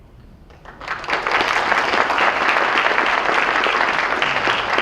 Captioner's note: audience applause